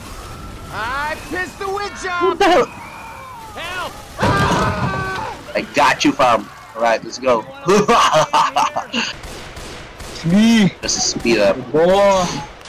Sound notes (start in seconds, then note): 7.7 evil laughter